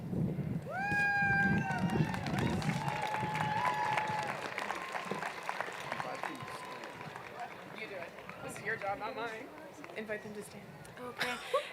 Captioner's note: applause